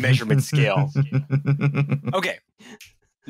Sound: chuckles

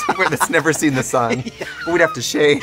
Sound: laughing

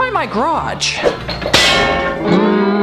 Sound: sound of metals

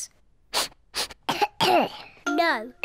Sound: sniffs and coughs

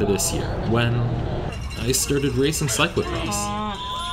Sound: cowbells ring

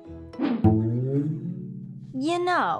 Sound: bouncing

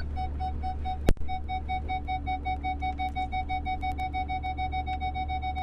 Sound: beeping

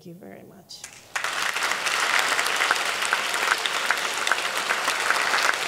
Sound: audience clapping

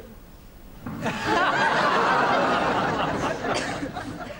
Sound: audience laughs

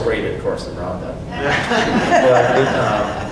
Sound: audience laughs

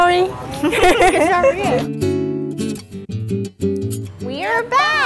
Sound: laughing

